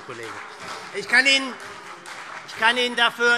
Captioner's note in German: Beifall